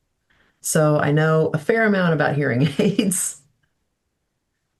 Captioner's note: laughs